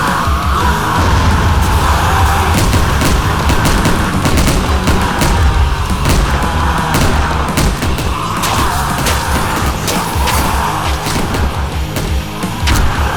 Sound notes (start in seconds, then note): 5.9 explosion; 8.0 gunfire